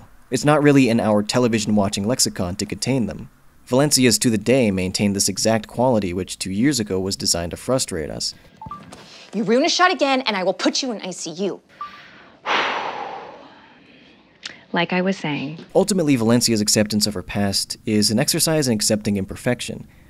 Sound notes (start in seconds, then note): 8.4 phone beeps; 11.7 phone beeps; 11.7 exhales